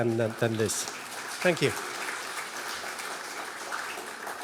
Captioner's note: applause